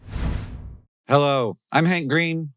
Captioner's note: logo whooshing